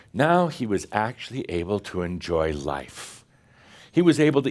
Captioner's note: none